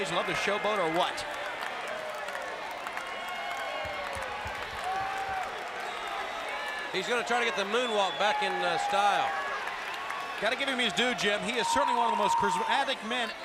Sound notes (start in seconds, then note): 1.7 crowd cheering